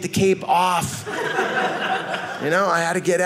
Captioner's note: audience laughing